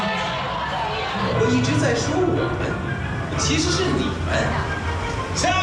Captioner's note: speaking Chinese